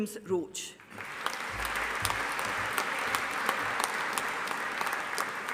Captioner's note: audience applauding